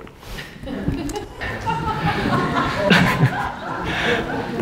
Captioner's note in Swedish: skratt